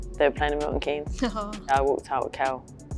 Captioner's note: Alessia chuckles